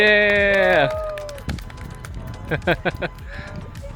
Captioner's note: clapping